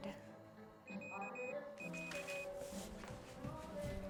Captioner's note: pager beeping